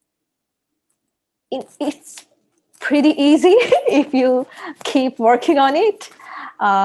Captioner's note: chuckles